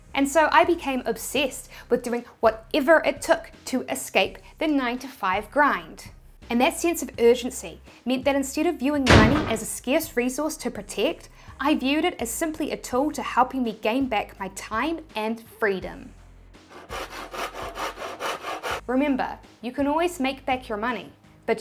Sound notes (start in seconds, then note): 16.6 sawing